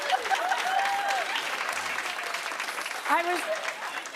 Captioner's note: laughter; cheers and applause